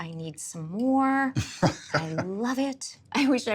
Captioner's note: chuckling